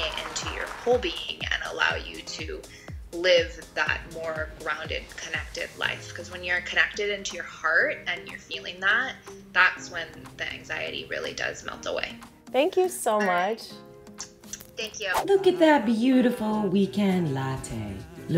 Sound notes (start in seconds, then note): 14.1 smooches